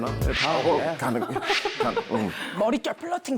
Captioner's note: smack